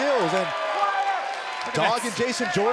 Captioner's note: cheers & applause